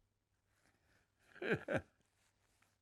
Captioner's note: laughing